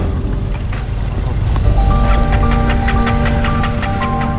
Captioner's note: engine dies